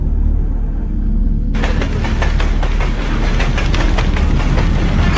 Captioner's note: spacecraft rattling; flames whooshing